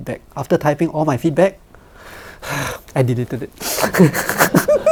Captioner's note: sighs